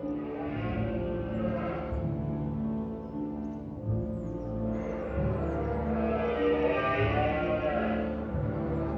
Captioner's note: distant deer roaring